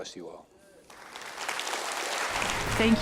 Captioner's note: applause